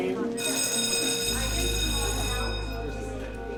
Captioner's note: bell chiming; students chatter in the background